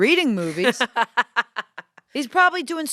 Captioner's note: laughs